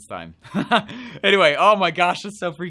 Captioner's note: laughs